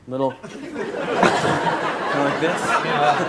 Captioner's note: audience laughing